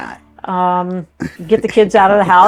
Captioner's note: laughs